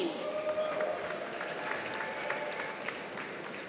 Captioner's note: applause